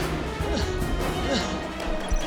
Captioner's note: panting